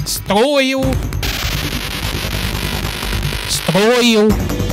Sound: fast building noices that definetly dont sound like a g*n; f**king calamity terraria sounds wth?!

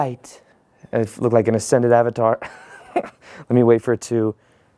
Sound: chuckles

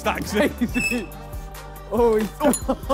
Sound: laughing

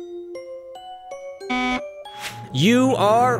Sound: buzzer

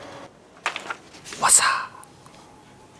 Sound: paper noise

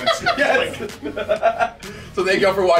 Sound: laugh

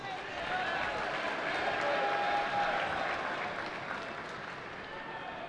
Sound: cheering

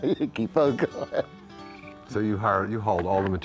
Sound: laughs

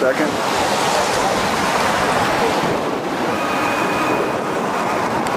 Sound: water rushing loudly

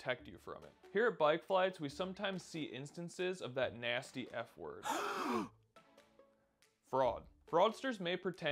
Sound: gasp

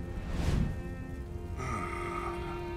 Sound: groaning

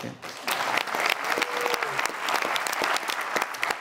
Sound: audience applauds

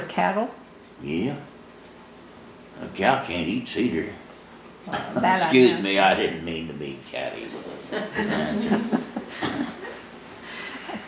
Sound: laughter

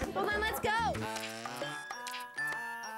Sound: mixed chatter

